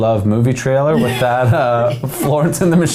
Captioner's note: laughing